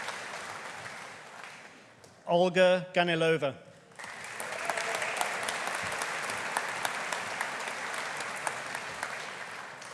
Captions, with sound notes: Olga Ganilova. (AUDIENCE APPLAUDING)